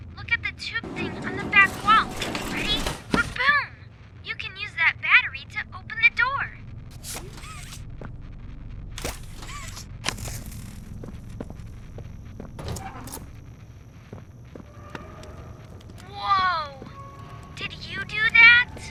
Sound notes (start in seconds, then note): 8.4 door creaking; 9.5 footsteps; 13.9 door creaking